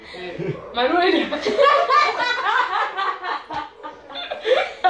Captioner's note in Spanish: Risas fuertes